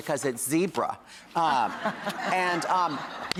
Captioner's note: audience laughs